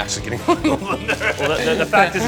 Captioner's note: laughing